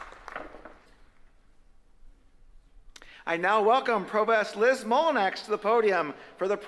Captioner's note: applause